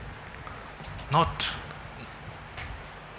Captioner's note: speaks in foreign language